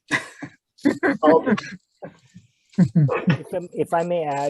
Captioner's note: chuckling